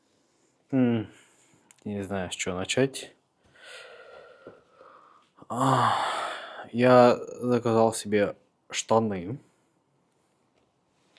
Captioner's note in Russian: вздыхает